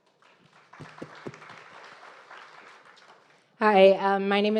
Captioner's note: audience applauding